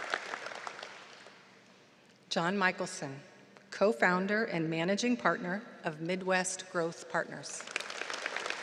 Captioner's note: applause